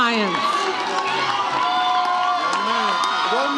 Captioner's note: audience cheers